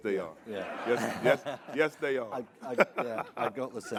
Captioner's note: all laughing